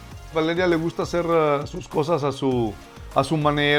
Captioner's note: foreign language